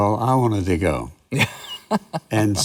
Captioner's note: laughs